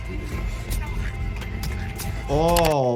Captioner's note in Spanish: cortando con cuchillo